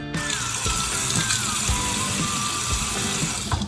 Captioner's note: water running